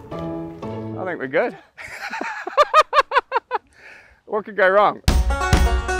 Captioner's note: laughs; instrumental music playing